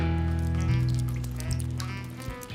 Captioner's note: water dripping